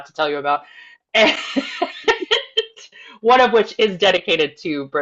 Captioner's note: laughs